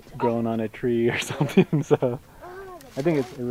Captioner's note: laughing